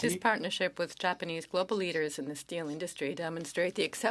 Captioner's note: speaking French